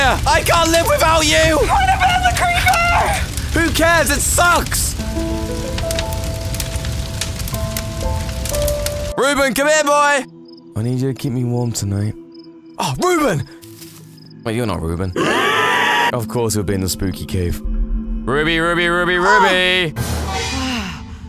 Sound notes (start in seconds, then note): 15.1 pig Screaming